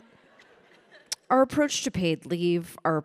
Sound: audience chuckling

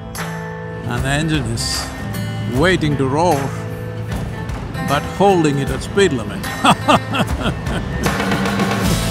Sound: laughs

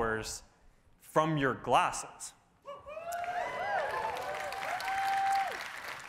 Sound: cheering

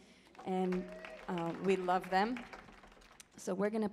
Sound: audience applauds

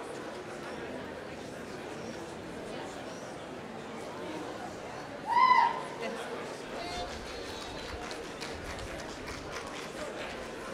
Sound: applause

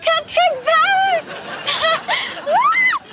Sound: giggling

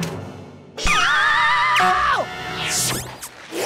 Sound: screaming

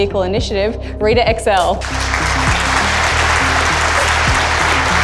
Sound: audience applauding

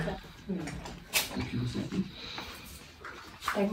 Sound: indistinct chatter

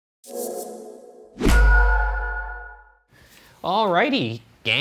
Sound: air whooshing

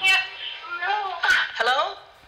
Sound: female 911 responder speaking

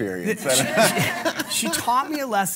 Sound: all laugh

